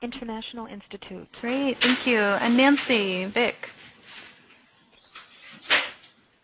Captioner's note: voiceover